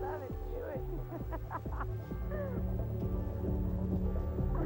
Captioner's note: uptempo dance music; Iris laughing